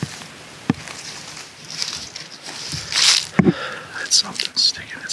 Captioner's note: leaves crunch; whispers